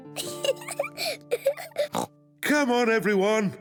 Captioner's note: giggles